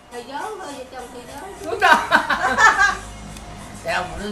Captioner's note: laugh